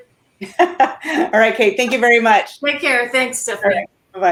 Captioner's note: laughs